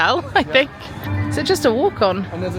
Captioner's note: chuckling